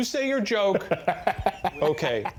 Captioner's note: laughing